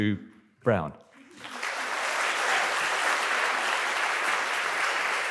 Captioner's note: applause